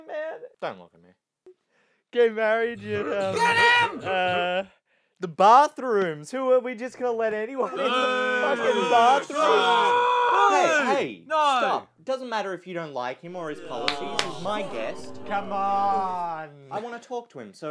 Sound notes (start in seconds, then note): 7.9 audience Boos